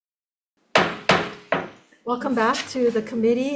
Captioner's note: gavel tapping